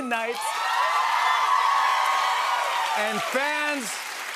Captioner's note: cheers and applause